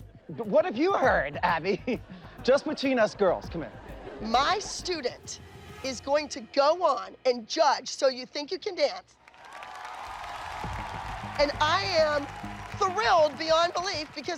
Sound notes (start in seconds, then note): 9.2 cheering